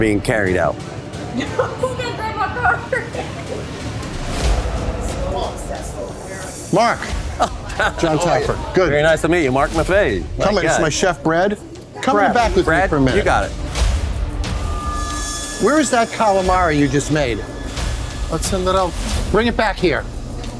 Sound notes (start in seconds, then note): 1.2 laughs; 2.8 chatter; 14.3 suspenseful music